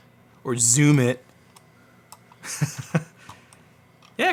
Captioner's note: laughs